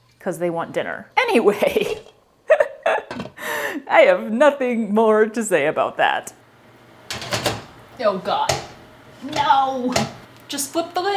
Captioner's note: laughter